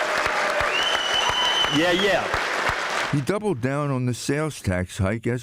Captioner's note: applause